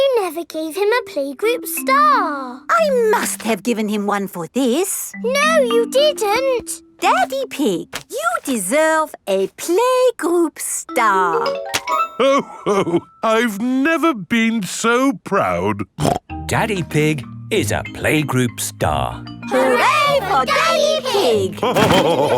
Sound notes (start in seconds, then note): 16.0 snorts